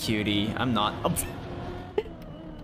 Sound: laughs

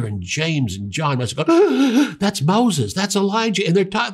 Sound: gasps

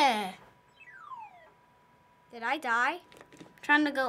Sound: descending bloop

